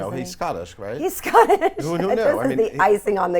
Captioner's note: laughs